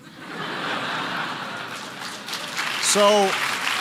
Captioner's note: laughter and applause